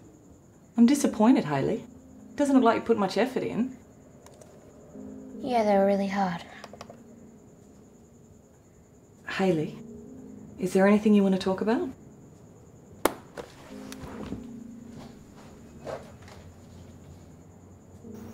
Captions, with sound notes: I'm disappointed, Hayley. It doesn't look like you put much effort in Yeah, they were really hard. Hayley, is there anything you wanna talk about? (LAPTOP CLICKS SHUT)